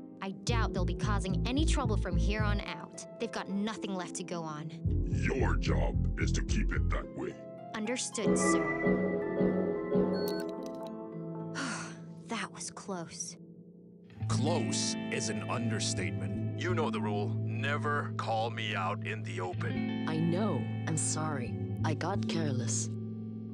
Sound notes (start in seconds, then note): 11.5 sigh